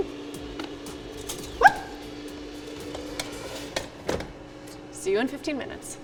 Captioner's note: yelps